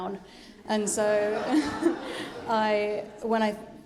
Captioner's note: audience laughing